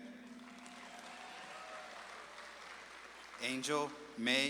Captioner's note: audience claps and cheers